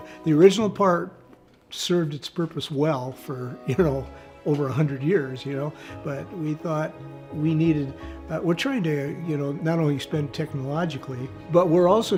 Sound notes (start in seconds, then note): 3.6 laughs